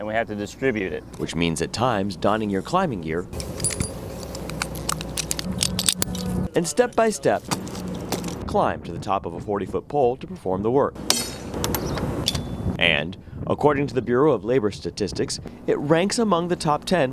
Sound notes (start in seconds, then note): 7.3 foot steps